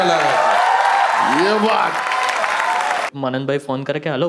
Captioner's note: crowd applauding